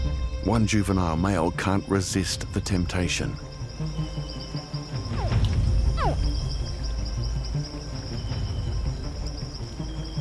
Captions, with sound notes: One juvenile male can’t resist the temptation. -[hatchling grunts] -[dramatic music playing]